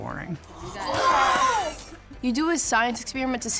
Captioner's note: children Exclaim